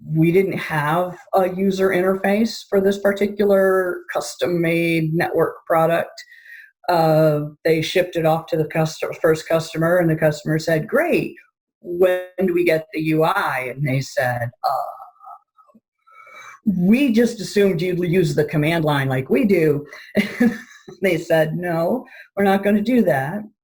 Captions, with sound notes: We didn't have a user interface for this particular custom made network product. They shipped it off to the first customer and the customer said, Great! When do we get the UI? And they said, Oh! We just assumed you'd we use the command line like we do. (chuckling) They said, No, we're not gonna do that.